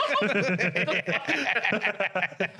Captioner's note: laughing